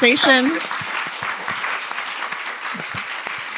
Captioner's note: applause